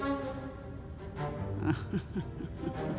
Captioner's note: snickers